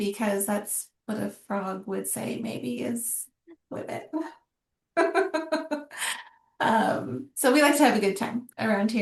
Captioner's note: laughter